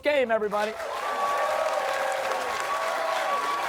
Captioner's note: cheers and applause